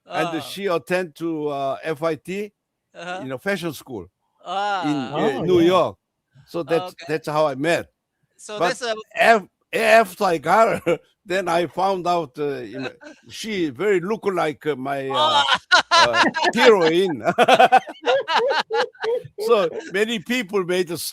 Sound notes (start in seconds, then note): 17.8 laughing; 17.8 웃음